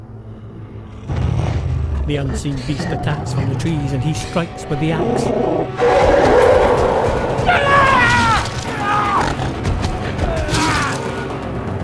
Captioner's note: grunts and roars